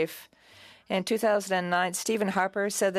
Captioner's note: speaking French